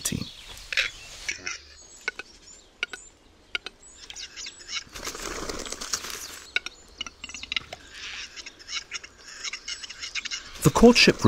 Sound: sounds of nature

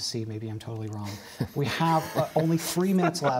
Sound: laughter

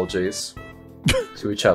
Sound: scoffs

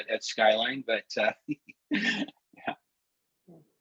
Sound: laughter

